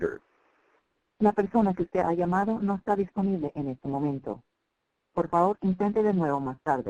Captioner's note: speaking foreign language